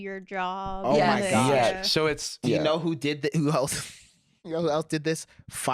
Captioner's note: laughs